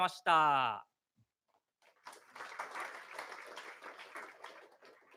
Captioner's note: applause